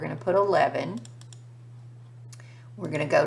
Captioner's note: mouse clicking